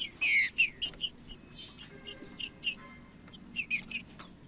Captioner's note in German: trinca ferro cantando